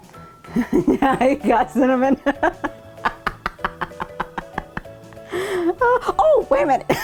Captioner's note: laughing